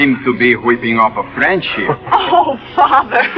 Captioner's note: laughter